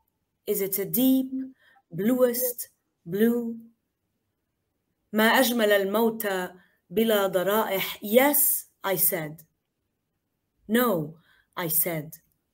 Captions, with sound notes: 'Is it a deep bluest blue?' (speaking in foreign language) 'Yes,' I said. 'No,' I said.